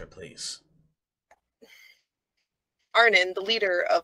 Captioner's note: sighs